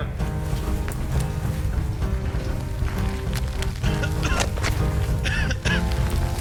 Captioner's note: gentle music; boy coughing